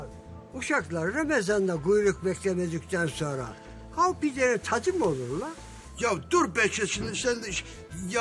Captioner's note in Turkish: none